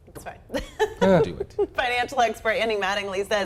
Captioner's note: laughing